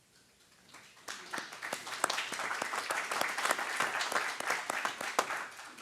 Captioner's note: applause